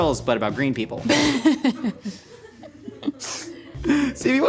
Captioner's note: laughing